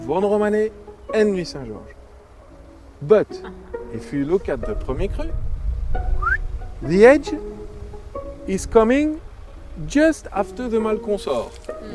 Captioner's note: whistles